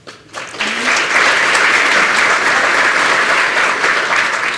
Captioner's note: applause